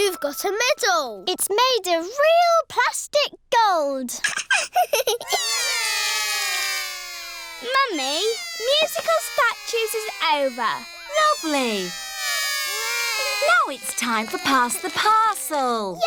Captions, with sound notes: You've got a medal. It's made of real plastic gold. (LAUGHS) (ALL CRY) Mummy, musical statues is over. Lovely. Now it's time for pass the parcel.